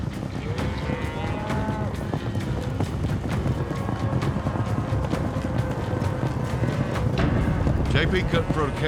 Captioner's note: cattle mooing; hoofbeats